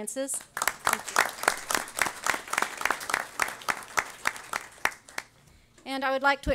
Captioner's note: audience applause